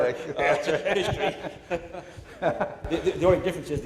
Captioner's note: laughter